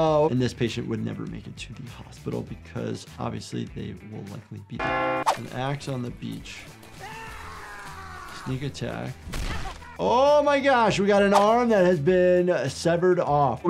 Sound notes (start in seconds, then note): 4.8 bell dings; 7.0 character screaming